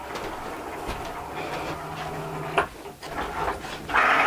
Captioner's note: machine buzzing